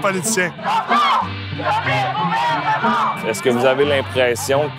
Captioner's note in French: slogan scandé